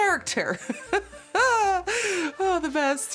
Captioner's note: laughter